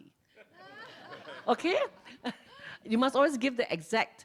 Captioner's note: laughs